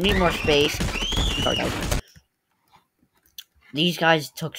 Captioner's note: creatures screaming